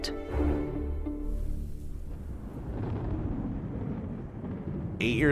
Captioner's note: rumbling skies